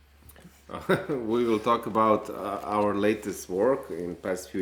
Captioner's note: laughs